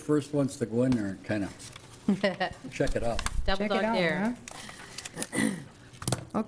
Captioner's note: laughter